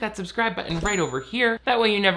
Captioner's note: bell chimes